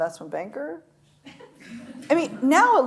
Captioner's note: audience laughs